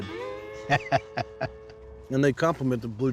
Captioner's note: laughter